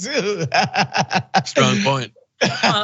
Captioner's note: laugh